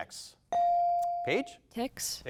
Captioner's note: bell dings